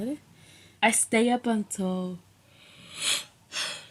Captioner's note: yawning